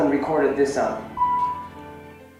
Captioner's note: beep